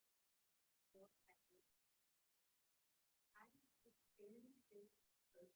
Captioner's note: faintly speaking